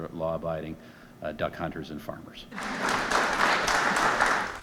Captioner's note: applause